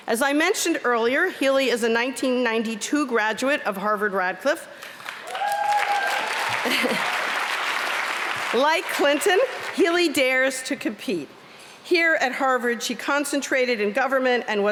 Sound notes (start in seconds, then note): 4.8 applause